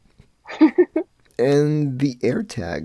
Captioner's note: laughs